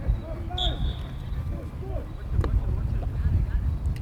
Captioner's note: whistle